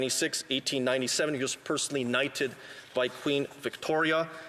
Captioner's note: speaking alternate language